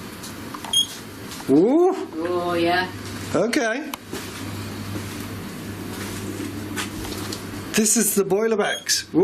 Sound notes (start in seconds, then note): 1.1 loud beeping